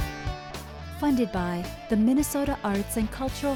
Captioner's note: voiceover